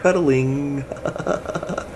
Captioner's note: laughs